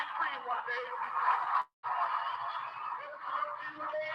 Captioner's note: audience applauding